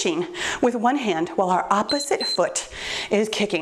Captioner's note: timer beeps